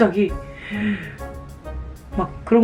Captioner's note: gasp